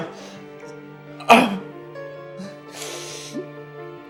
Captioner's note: groans